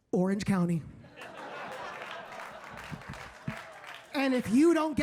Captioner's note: audience laughing